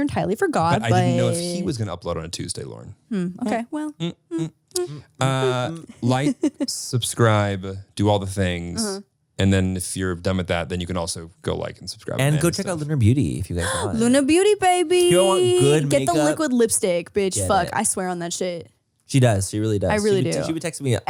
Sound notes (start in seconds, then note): 13.5 gasps